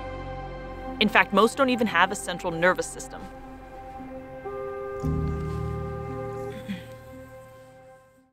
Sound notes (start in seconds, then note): 3.4 instrumental background music; 4.0 background horn noise